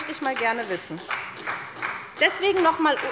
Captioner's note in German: Beifall bei der SPD